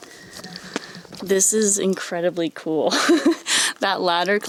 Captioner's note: laughs